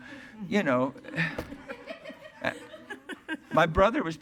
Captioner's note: attendees laughing